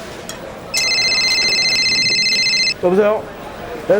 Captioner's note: phone rings again